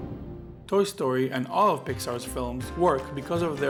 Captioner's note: voiceover